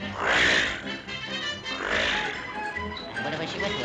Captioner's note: vehicles whooshing